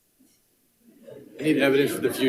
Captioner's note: board Members talking and laughing off microphone